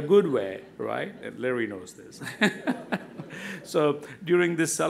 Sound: laughs

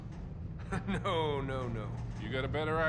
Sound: laughing

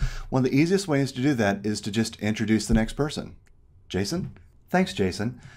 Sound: none

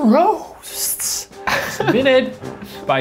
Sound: laughing

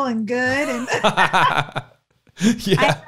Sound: laughing

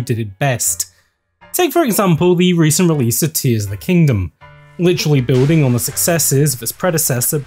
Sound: splash

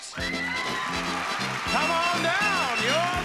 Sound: crowd cheering

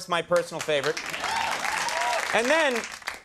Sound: audience cheers

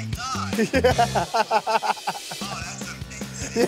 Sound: laughs

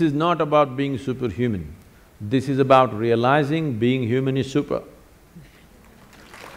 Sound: applause

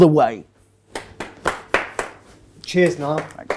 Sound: a single clapper

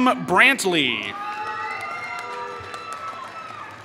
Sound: applause

